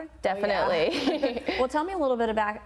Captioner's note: laughter